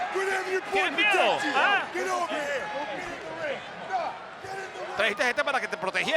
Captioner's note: applause